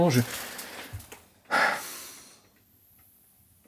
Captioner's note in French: soupire…